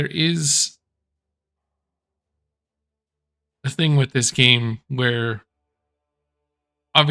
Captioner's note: pause